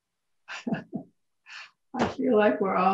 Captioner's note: laughs